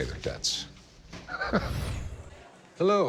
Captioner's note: chuckling